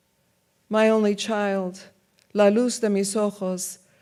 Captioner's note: speaks in foreign language